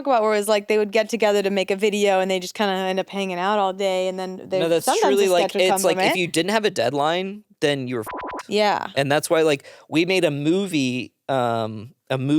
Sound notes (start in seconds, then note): 8.0 beep